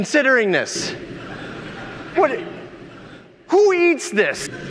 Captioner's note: audience laughing